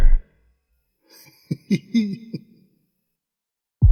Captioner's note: laughs